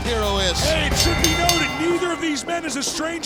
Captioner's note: bell rings